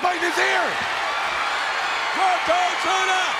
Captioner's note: audience cheers